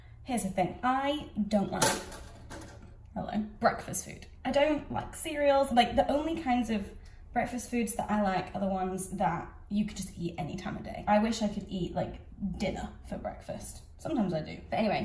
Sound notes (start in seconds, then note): 1.8 toaster popping